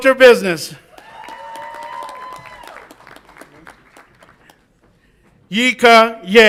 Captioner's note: audience applauds and cheers